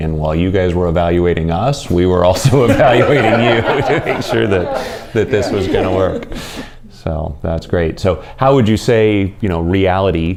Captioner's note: laughter